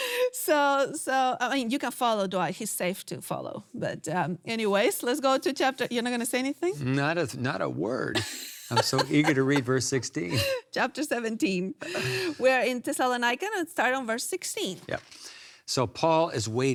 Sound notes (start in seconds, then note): 8.2 laughs